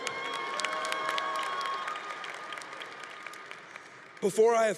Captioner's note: congregation cheering